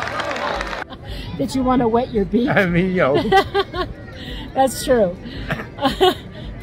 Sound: laugh

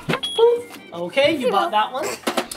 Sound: scanner beeping

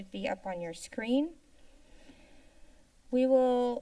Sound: inhales

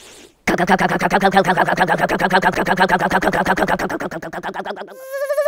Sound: funny motor sound

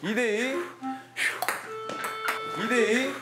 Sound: deep breaths

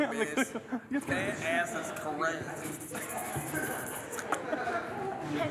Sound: hisses, pops tongue

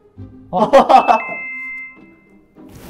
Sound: laughing

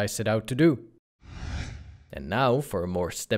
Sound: whooshing

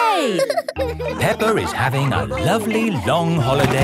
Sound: all laughing

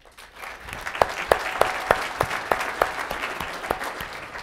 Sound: audience applauding

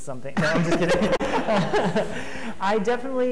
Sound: laughing

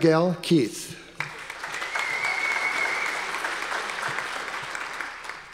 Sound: audience applause

